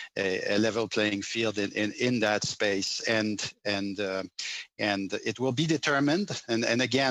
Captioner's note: speaking French